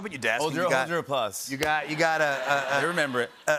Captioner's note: laughter